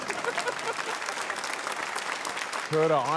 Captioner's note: laughter, applause